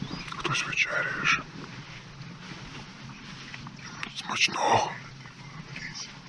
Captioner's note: sounds of woods; whispering